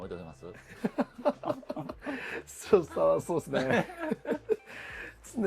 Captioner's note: laugh